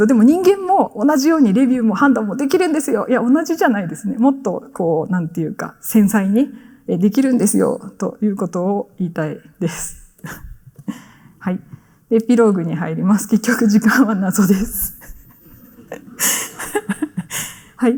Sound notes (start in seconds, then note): 15.1 chuckles